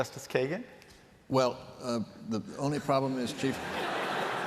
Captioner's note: laughter